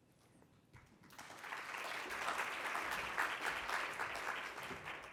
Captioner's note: congregation clapping